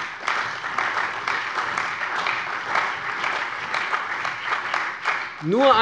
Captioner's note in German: Beifall bei der CDU und dem BÜNDNIS 90/DIE GRÜNEN